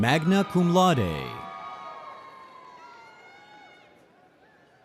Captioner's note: audience cheering